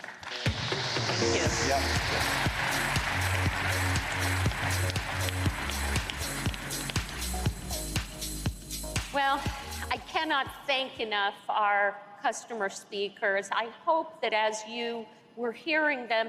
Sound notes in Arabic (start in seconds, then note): 2.0 تصفيق